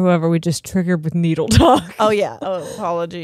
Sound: both laughing; chuckles

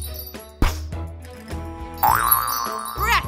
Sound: magical chimes; poof; magical chimes; boing

